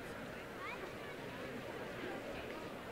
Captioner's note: none